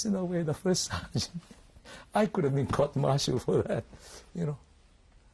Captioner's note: laughing